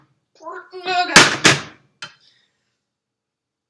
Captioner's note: crashing noise